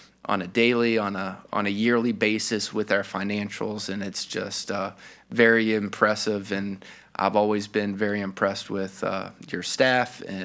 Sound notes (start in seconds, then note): none